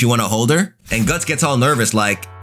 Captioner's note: air whooshing